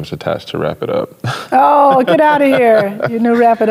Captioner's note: chuckles